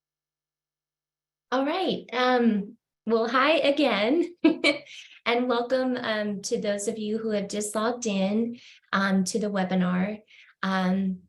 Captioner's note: laughter